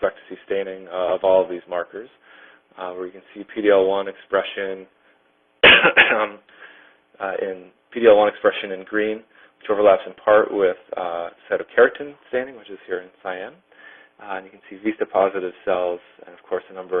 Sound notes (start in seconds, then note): 5.6 coughs